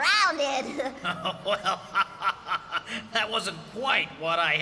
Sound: chuckling

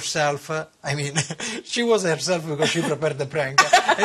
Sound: laughter

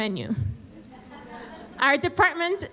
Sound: audience laughing

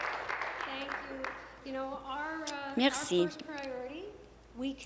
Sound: applause

